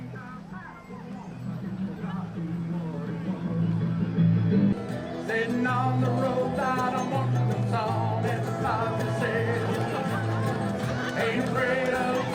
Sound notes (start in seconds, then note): 0.8 crowds chatter, laugh; 8.6 crowd din